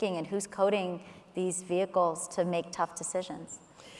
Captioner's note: none